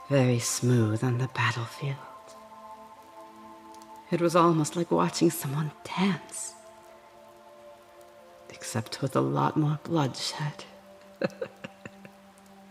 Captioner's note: laugh